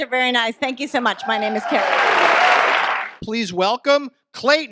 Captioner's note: audience applause